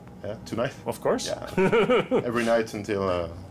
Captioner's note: chuckles